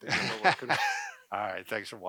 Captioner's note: laughter